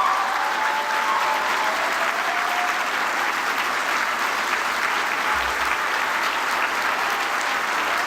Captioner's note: applause